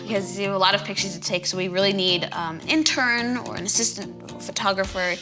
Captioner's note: none